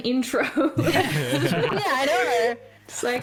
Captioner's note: concurring laughter